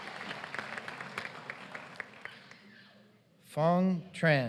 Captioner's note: applause